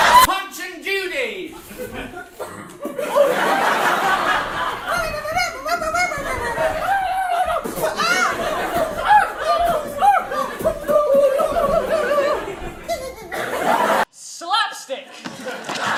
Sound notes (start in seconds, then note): 4.9 high pitched and punching sounds; 12.9 evil laugh